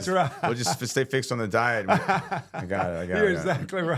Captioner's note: laughing